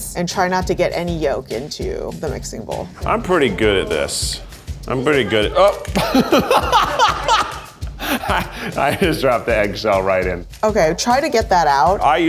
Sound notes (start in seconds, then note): 6.2 laughs